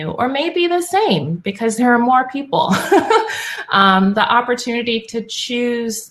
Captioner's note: laugh